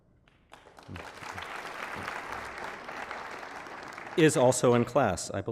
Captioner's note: applause